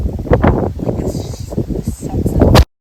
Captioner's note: wind noises